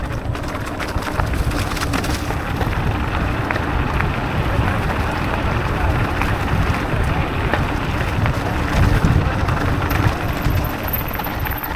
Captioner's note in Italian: Applauso